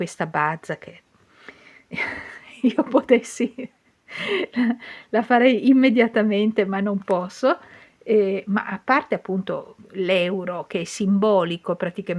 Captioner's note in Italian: risate